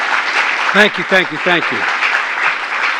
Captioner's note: applause